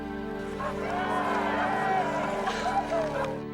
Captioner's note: all laughing